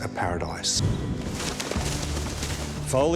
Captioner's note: horses galloping